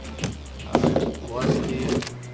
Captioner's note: chair slams